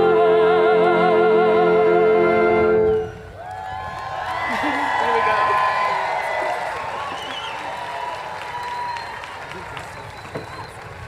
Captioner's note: cheers and Applause